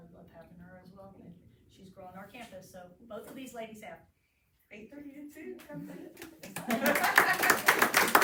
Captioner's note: applause